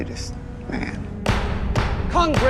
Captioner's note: hammering